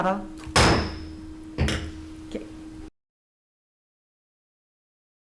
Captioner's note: gavel slamming the block